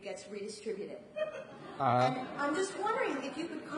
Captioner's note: audience laughs